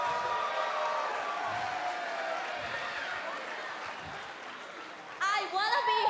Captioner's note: cheers and applause